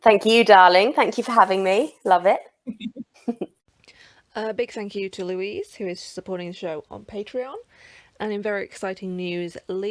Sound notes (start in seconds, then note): 2.6 chuckles